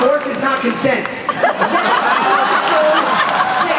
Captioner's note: laughter